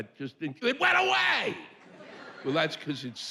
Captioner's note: yelling